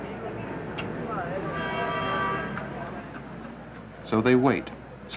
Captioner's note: city noise